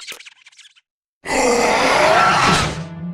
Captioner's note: roars